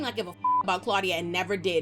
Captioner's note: beep